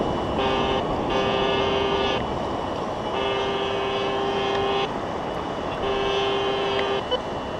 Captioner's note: detector buzzes